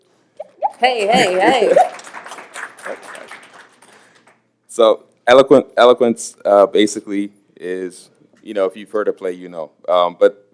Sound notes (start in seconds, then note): 3.7 applause